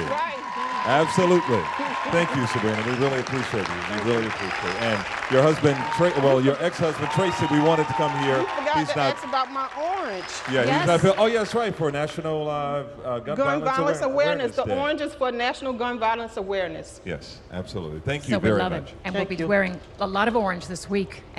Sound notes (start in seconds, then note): 9.3 applause